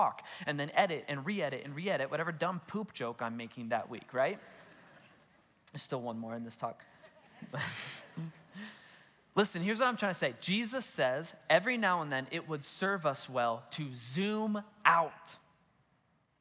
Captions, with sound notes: and then edit and re-edit and re-edit whatever dumb poop joke I'm making that week, right? (congregation laughs) There's still one more in this talk. (congregation laughs) Listen, here's what I'm trying to say, Jesus says every now and then it would serve us well to zoom out.